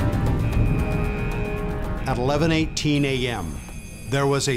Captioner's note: ship exploding; siren blaring